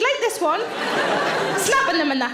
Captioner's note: audience laughs